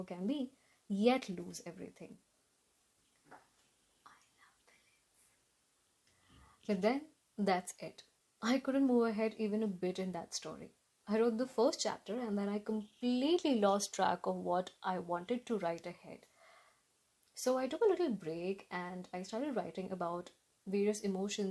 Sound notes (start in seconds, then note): 3.4 Zoom whisper: I love Villains!